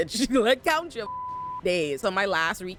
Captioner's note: beep